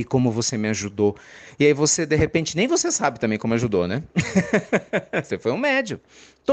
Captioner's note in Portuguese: risadas